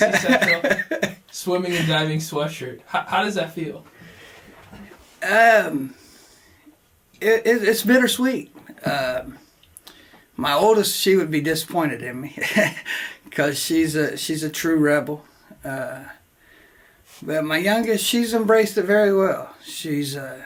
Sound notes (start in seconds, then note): 0.0 laughs; 13.3 laughs to self